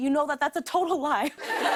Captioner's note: laughter